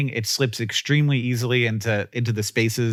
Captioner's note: none